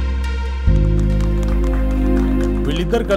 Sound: applause

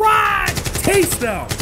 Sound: AK-47 fires

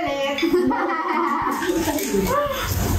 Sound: chuckles

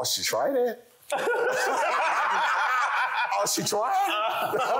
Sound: panel laughing

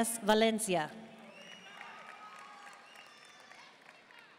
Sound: audience cheering and applauding

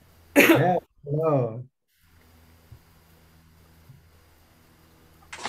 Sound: person coughs

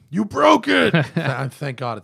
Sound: laughter

